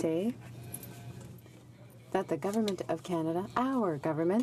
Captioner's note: speaking in french